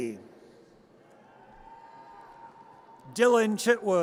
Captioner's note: audience cheers